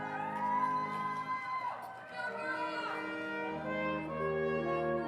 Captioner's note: congregation applauding